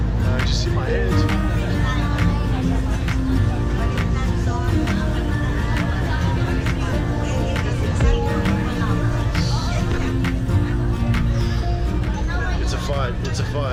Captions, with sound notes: I just hit my head. (quiet conversations) It's a fight, it's a fight,